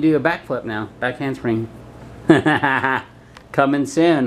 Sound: laughing

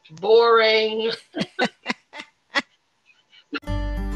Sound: laughter

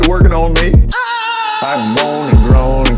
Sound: intense pleasure screams

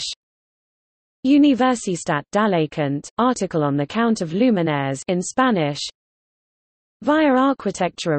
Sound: in Spanish; in Spanish

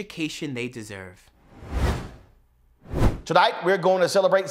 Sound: whooshes

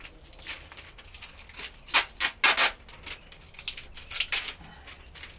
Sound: paper flapping; tape pulling

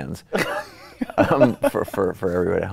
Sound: laughs

